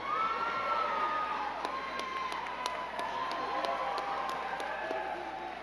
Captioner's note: crowd cheering and clapping